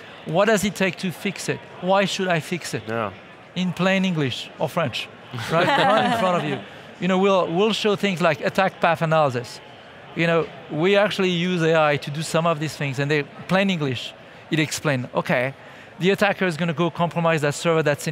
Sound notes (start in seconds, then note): 5.4 everyone laughing